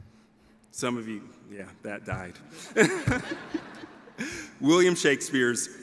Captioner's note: laughs